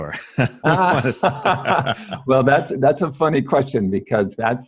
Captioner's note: laughs